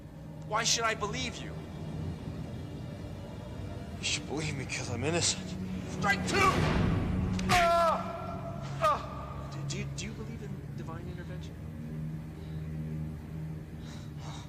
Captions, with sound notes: Why should I believe you? - You should believe me because I'm innocent. - Strike two! (man screaming) Do you believe in divine intervention?